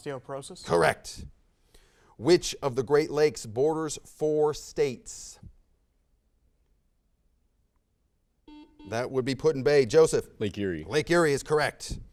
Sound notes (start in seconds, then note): 8.4 buzzer sounds